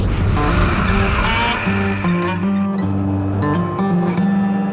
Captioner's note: tractor engine